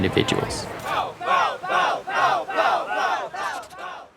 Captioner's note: group chanting